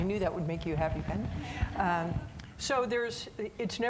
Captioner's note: audience laughing